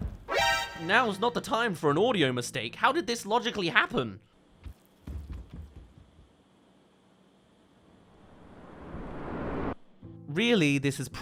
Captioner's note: runs stairs, sound